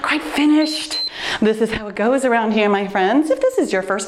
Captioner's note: timer beeps